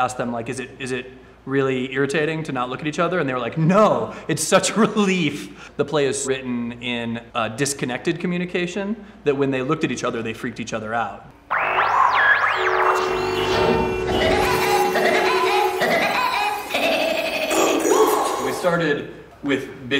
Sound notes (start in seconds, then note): 13.1 sound effects